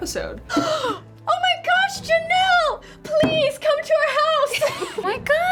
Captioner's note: gasps